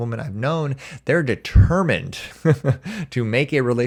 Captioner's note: chuckles